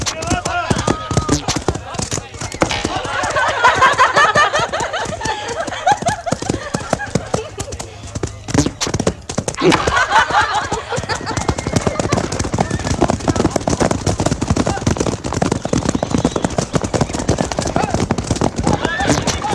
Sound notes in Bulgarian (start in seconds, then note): 2.9 смях